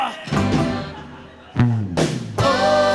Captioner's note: laughter